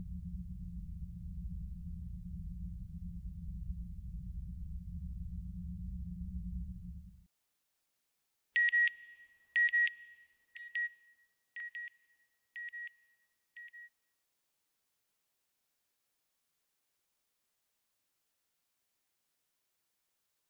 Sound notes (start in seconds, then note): 9.6 beeping; 11.6 beeping; 16.3 silence